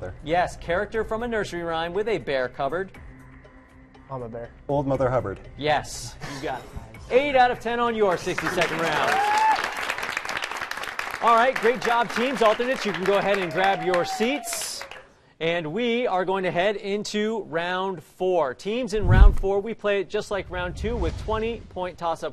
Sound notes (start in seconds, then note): 6.2 laughs; 8.1 cheers and applause